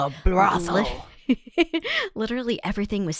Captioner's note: laughs